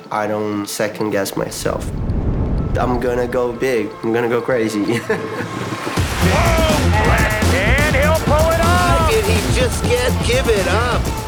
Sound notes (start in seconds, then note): 5.4 laughs